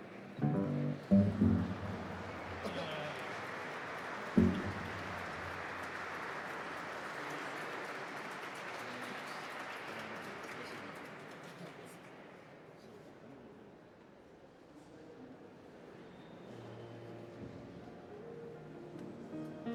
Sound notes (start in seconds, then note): 2.2 audience applauding